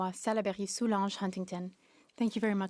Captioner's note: speaking French